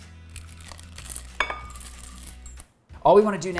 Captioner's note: chocolate chips clattering